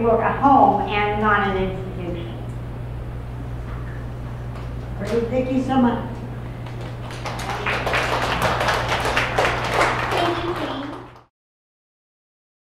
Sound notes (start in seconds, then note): 6.6 audience applause